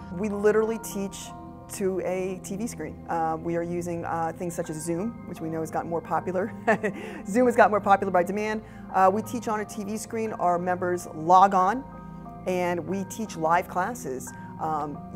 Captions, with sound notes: We literally teach to a TV screen. We are using things such as Zoom, which we know has gotten more popular.(chuckles) Zoom has got more popular by demand. We teach on a TV screen, our members log on and we teach live classes.